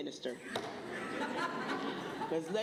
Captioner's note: laughter